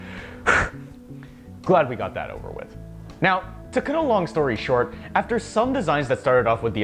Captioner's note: phew